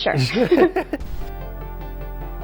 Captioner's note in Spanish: risas